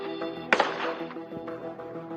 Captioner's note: gununshshots